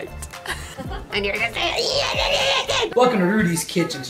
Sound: both growling

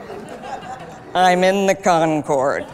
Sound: laughter

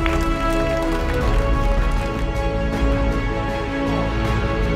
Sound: clapping

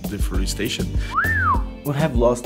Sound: whistles

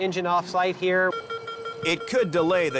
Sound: fast-paced machine beeps

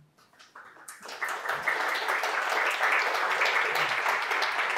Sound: audience applauding

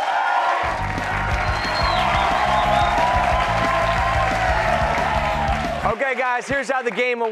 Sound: cheers and applause

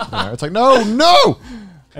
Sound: laughs

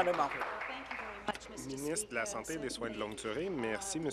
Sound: applause

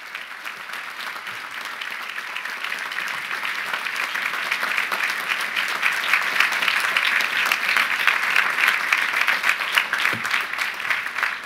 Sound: applause

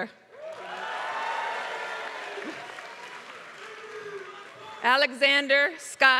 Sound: applause

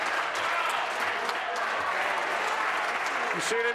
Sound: applause

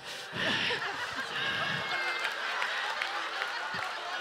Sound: audience laughing

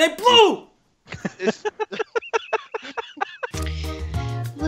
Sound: someone's laughing

